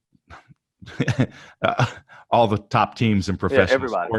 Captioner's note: laughs